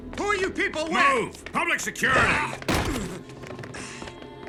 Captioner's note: grunts